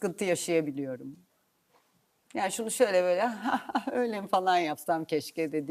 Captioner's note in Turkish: kahkaha